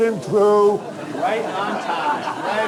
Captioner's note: audience laughing